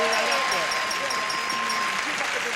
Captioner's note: ding